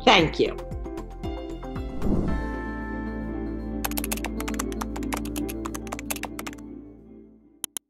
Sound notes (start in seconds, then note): 3.8 keyboard typing